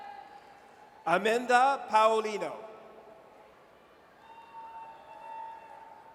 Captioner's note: audience cheers; audience cheers